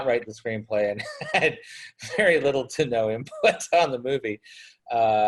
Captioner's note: laughs